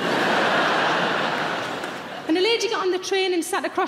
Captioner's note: audience laughing